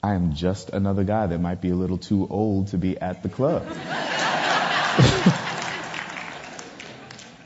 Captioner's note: audience laughter